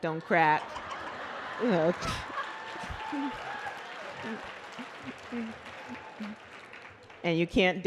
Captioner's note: laughter